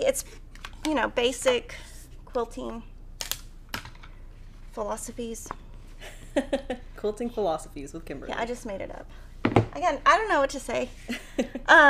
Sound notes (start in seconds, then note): 6.0 laughing